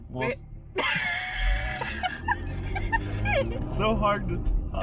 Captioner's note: laughing